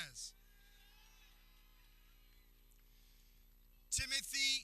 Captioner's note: people cheering